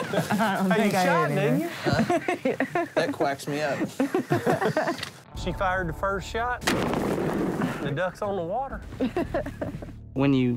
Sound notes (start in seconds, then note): 0.0 laughter; 1.7 laughs